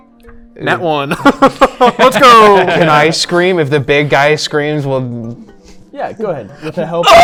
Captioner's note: screams